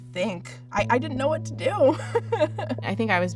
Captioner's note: laughs